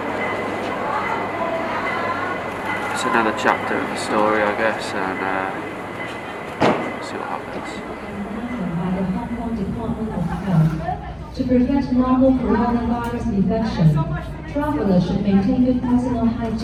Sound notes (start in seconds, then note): 9.8 airport tannoy